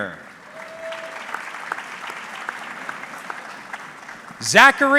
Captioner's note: audience clapping